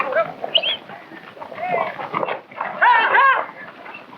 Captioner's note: horse whinnying